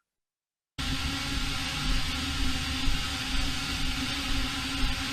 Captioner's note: blades whirring